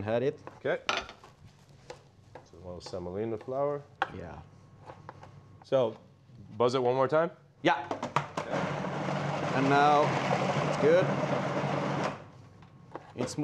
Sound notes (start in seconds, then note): 7.9 processor whirring; 11.2 processor stops